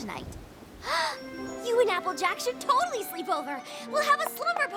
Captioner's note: gasps